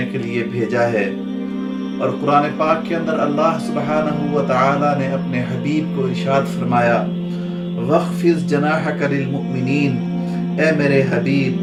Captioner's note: Arabic